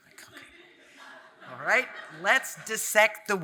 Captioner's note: audience laughing